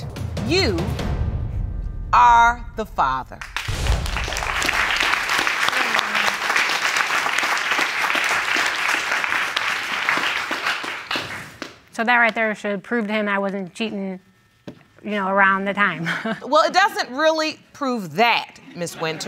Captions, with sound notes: you are the father. So, that right there should prove to him I wasn't cheating, you know, around the time. (CHUCKLES) Well, it doesn't really prove that, Ms. Winters.